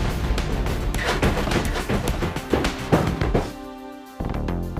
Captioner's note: heavy footsteps on stairs